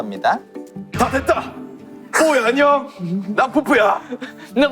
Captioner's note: Peupeu's manly voice